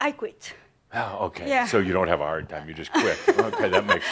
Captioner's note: she giggles